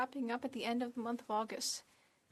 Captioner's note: speaking French